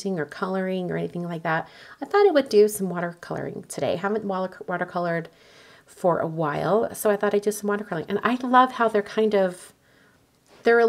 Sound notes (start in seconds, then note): none